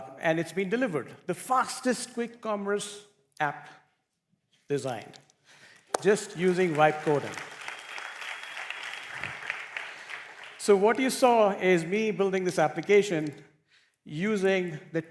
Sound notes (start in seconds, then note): 7.5 applause